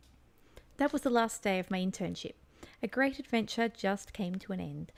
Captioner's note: reading text out loud